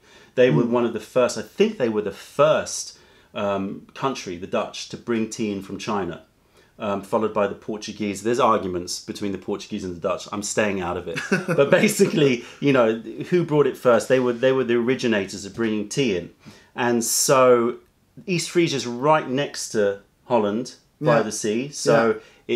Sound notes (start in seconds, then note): 11.1 laughter